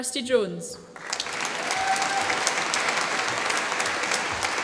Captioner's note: applause